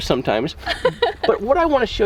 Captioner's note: mom giggles